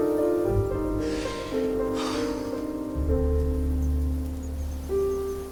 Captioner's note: Dayne inhales and exhales